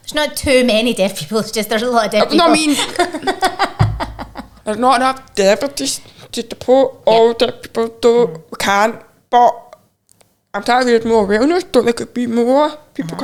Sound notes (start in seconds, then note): 2.3 chuckling